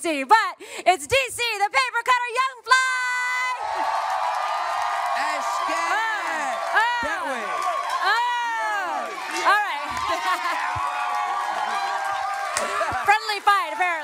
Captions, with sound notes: but it's DC "The Paper Cutter" Young Fly! (audience cheering) -Esketit! -Oh! Oh! That way! Oh! All right. (laughs) Friendly fight, apparently.